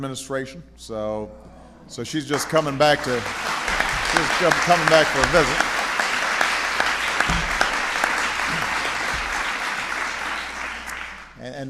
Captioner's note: applause